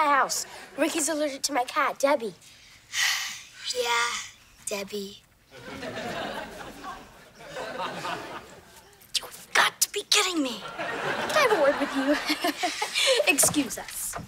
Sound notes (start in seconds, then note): 2.9 sighs; 10.6 laughs